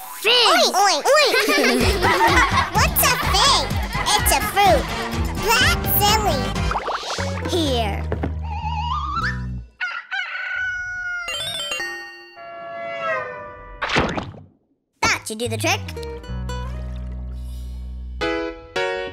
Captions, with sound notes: Oink, oink, oink. [laughing] What's a fig? It's a fruit. That's silly. Here. [crowing] [horn blowing] That should do the trick.